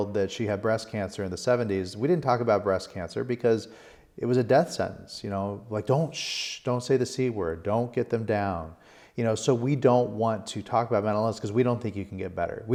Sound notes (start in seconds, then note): 6.1 shushing